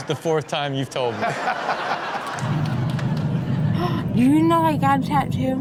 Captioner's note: all laugh